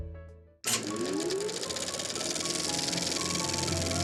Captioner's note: projector whirring; dramatic music